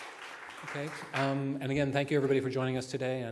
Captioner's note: applause